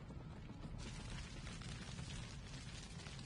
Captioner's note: distant fire crackling